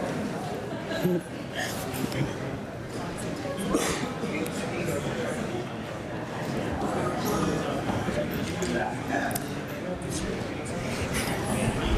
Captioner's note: laughter